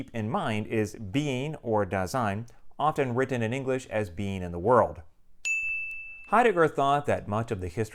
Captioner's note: chime